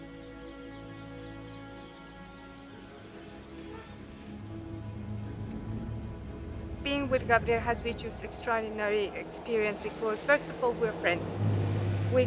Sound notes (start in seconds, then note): 0.1 dramatic music continues; 3.8 birds chirping